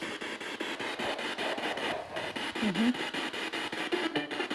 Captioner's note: radio goes crazy again